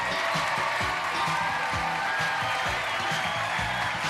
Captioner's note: cheers and applause